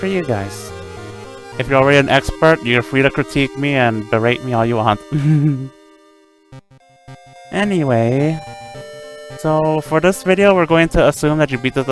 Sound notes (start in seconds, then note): 5.1 chuckle